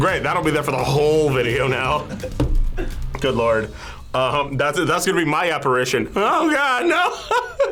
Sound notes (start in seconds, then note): 6.8 laughs